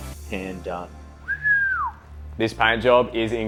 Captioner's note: he whistles